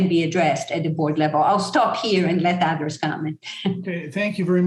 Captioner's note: chuckle